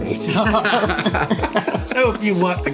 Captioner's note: laughing